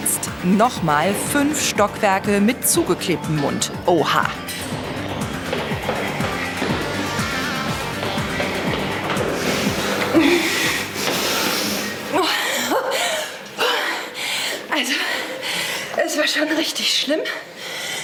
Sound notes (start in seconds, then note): 4.8 fast music; 12.9 gasps